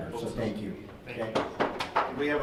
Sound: clapping

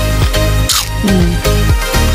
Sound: crunch!

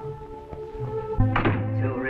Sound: door closes

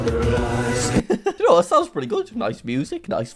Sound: laughs

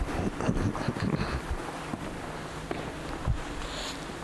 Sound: clears throat

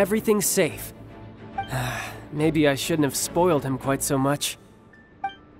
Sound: sigh

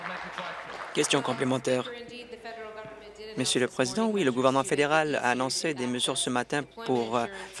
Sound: applause

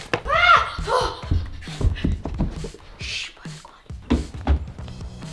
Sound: whispering

